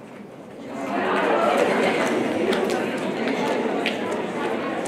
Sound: audience reacts

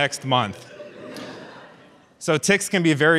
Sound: audience laughs

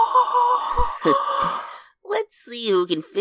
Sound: chuckles

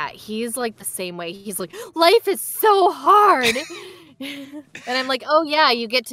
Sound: gentle laughter

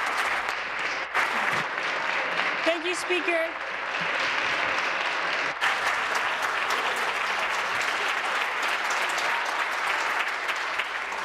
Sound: applause

